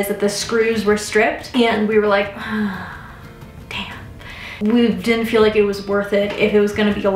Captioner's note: sighs